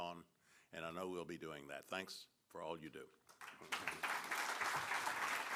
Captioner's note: applause